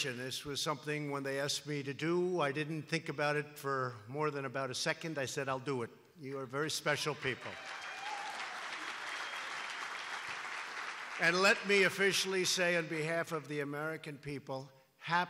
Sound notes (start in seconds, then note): 7.3 applause